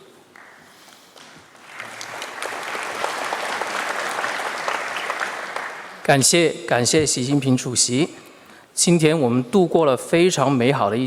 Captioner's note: speaking Mandarin Chinese